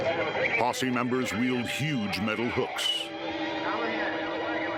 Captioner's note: radio chatter continues